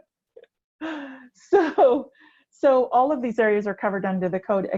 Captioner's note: laughter